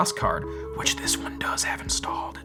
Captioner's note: whispering